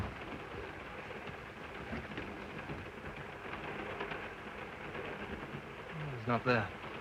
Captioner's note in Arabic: صوت خشخشة القطار